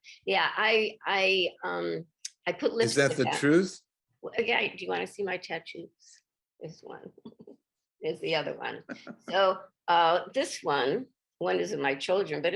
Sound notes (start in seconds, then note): 8.8 chuckles; 8.8 giggles